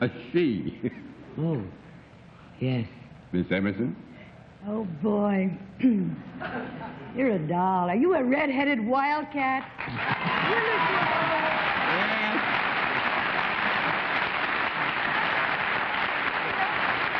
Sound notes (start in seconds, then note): 1.4 low-pitched; 6.3 clears throat; 13.8 applause